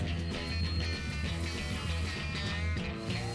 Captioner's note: drilling